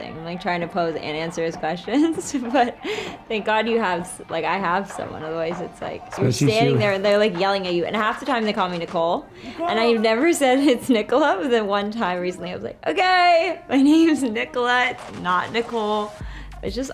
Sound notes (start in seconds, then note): 2.1 laughs; 6.3 Brooklyn speaks faintly